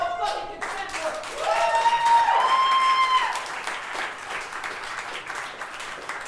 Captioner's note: audience cheering and clapping